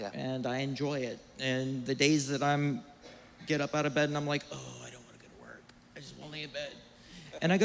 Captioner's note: groans